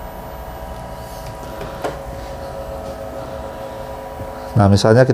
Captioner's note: printer machine noise